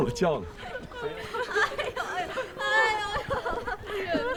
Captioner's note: laughter and sobs